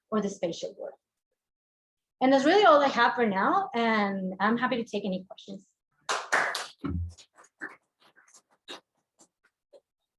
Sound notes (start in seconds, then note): 6.0 students clapping